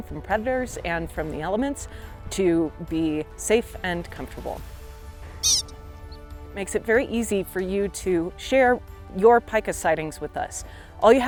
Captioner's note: Pika call